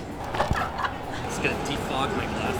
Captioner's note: loud laughing